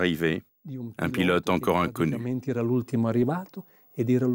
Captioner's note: Italian spoken audio